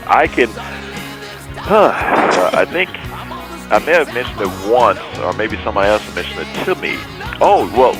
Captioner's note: sighs; radio host laughs